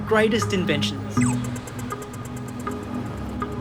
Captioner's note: walk signal bleeps